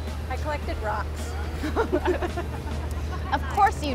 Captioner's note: laughing